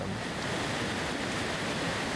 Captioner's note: river water splashing; water bubbling